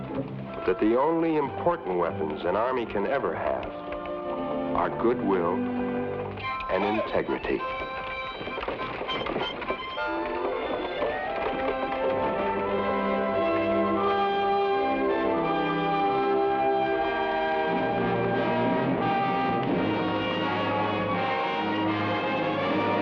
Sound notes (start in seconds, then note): 8.7 carriage wheels rumble; 13.7 adventurous music